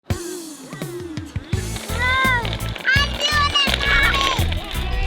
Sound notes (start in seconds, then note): 0.8 upbeat music; 1.5 both imitating engines revving; 2.0 all laughing